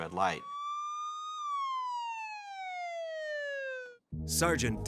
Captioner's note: sirens blaring